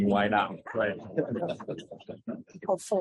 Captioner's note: laughter